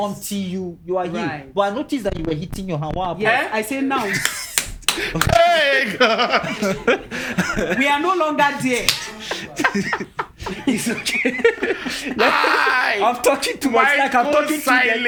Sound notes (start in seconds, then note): 4.2 clapping; 6.5 laughing; 10.1 clapping; 10.3 laughing; 12.3 laughing